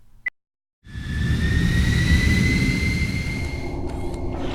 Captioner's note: loud whooshing